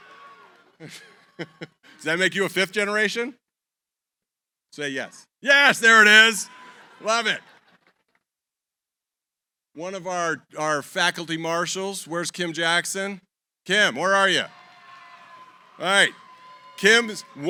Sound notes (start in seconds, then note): 0.2 laughs; 6.4 laughter; 13.9 cheering